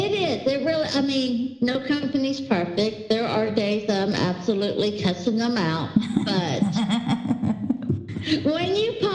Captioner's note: laugher